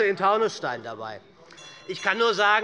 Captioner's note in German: Unruhe - Glockenzeichen des Präsidenten